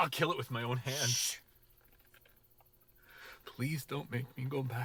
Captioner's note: shushing